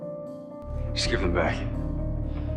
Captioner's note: voiceover